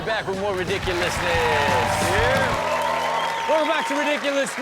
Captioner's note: audience cheers